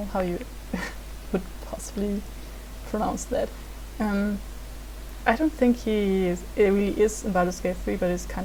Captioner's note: in English